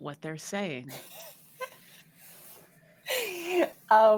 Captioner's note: all laughing